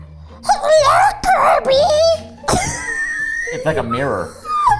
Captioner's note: playful music; laughing